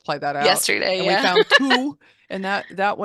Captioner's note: laughs